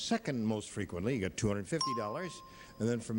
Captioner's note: bell rings